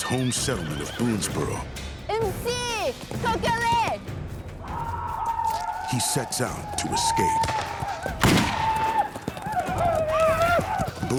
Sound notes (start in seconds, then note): 2.1 speaking shawnee; 4.6 shawnee war cries; 7.4 gunfire; 8.9 shawnee war cries